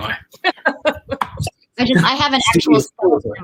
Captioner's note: laughing